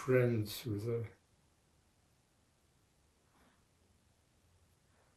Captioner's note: pauses 6 seconds